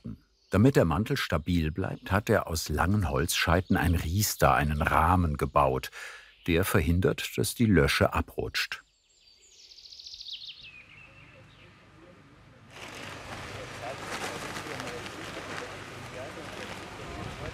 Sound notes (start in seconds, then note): 12.8 conversations in the background